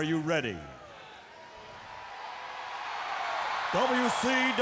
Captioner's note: crowd cheering